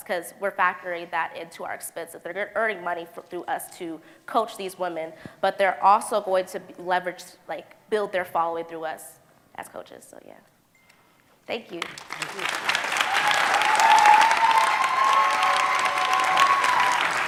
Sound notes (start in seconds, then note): 11.4 bell chimes; 11.8 audience clapping and cheering